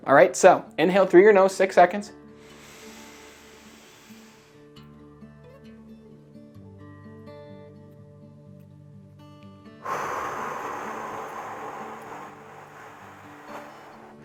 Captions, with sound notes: All right, so, inhale through your nose, six seconds. (inhaling) (whooshing)